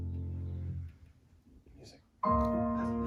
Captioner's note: music stops